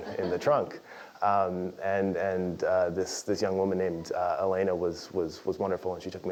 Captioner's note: laugh